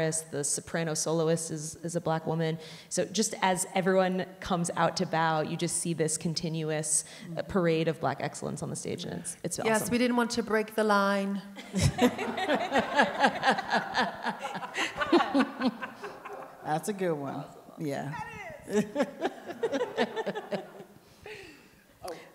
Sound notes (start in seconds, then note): 11.6 audience laughing; 18.2 all laughing